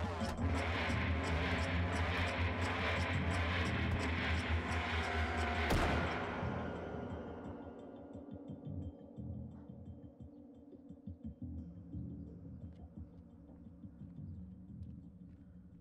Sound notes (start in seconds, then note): 5.5 shot firing; 6.7 tense music